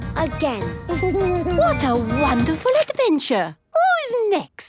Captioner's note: Danny giggles